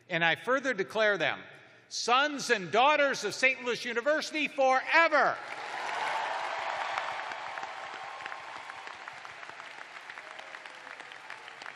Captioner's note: cheers and applause